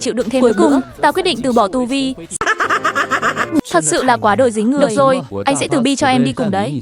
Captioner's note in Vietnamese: tiếng cười